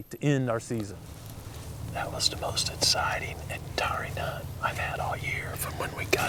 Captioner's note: whispering